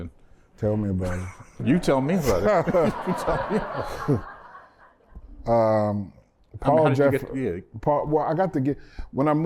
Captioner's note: laughter